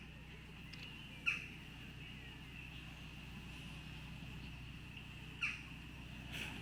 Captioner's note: birds chirping